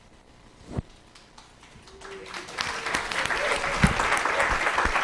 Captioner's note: applause